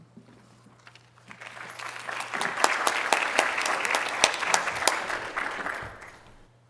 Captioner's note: applause